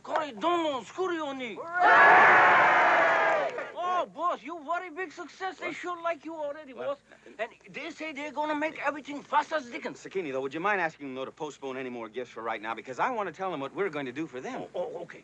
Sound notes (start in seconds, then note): 0.1 speaking Japanese; 1.6 crowd cheering